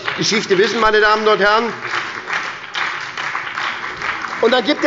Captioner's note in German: Beifall bei der SPD